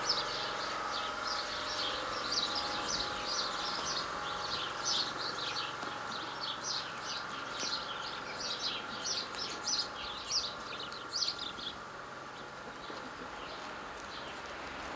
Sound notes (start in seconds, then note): 3.6 birds chirping